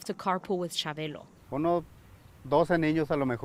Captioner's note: speaking in foreign language